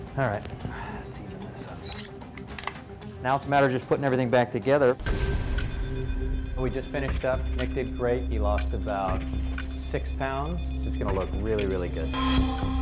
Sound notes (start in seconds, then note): 0.3 intense music; 2.5 stapling